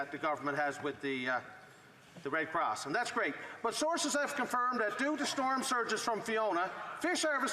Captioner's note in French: voix de l'interprète